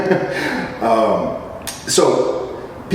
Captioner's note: chuckle